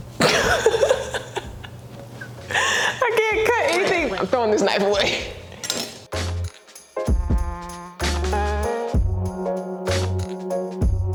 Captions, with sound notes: (laughs) I can't cut anything. I'm throwing this knife away. (upbeat music)